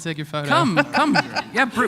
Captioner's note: laughter